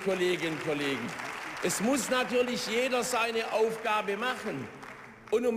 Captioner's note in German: Beifall